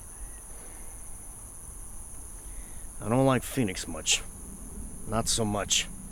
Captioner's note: sighs